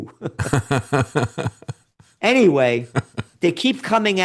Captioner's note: laughing